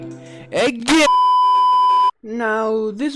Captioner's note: b e e p